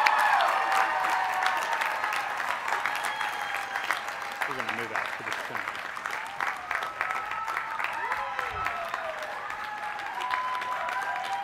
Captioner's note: cheers